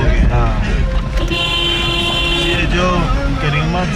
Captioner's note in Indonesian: Suara klakson